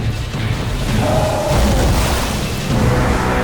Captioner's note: roar